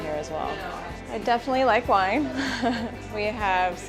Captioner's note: chuckles